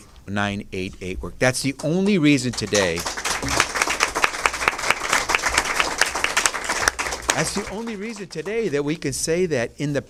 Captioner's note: applause